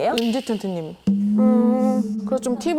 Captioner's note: reluctant sound effect